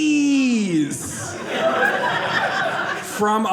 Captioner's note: audience laughing